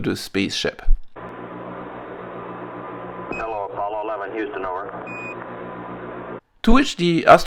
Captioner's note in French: bip